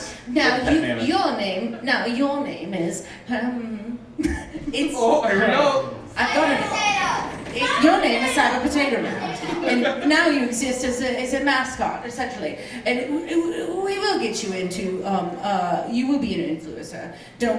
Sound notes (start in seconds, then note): 5.0 audience yelling